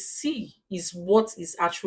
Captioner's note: paause